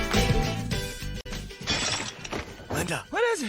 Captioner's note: pororcelain shatters